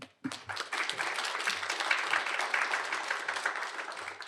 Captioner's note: applause